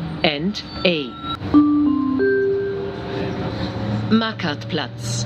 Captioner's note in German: Gong